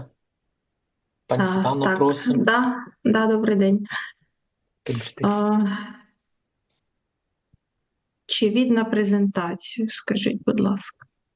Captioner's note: foreign language